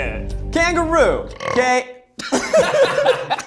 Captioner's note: belches; group laughs